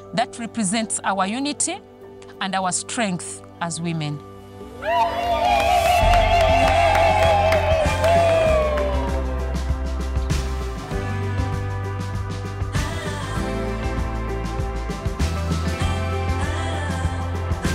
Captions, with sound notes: That represents our unity and our strength as women. (women cheering) (lively music)